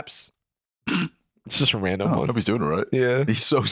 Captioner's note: snickers